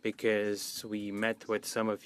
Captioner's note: speaking French